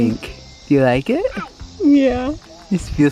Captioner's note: baby coos